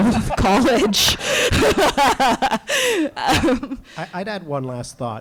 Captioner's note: all laughs